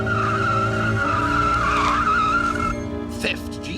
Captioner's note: tyres screech